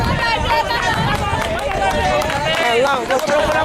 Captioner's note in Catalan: La gent anima